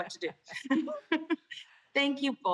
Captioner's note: laughter